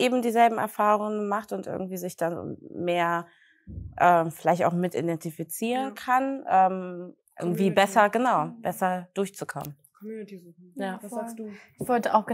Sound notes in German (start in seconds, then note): none